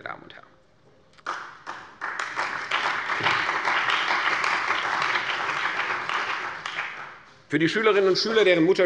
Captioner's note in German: Beifall bei der CDU und dem BÜNDNIS 90/DIE GRÜNEN